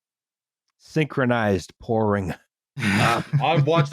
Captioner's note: laughter